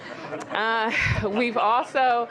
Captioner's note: laughter